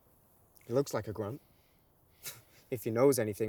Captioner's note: scoffs